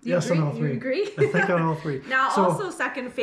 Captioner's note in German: lacht